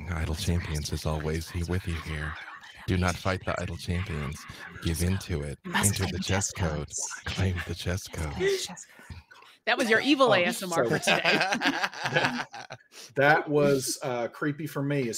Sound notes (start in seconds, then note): 5.8 players whispering; 10.6 laughing